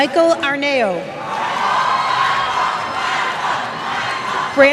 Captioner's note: cheers